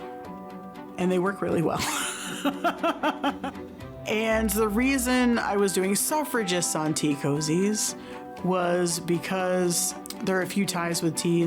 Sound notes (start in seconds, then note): 1.8 laughs